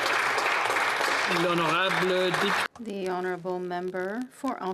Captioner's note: some Applause